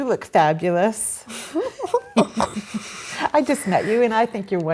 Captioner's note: laughs